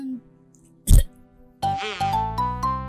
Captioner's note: violently chokes on air